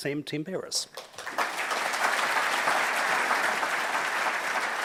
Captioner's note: audience applauds